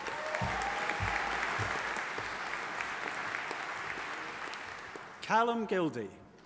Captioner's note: audience applauding and cheering